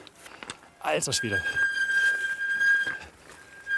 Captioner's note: brake squeak